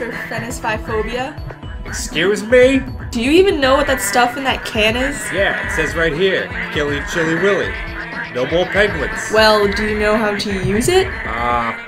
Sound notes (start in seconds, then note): 0.0 penguin sounds; 4.9 penguin sounds; 7.9 penguin sounds; 10.8 penguin sounds